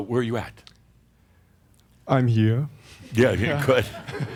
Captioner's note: some chuckles